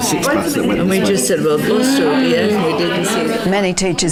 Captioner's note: participant chatter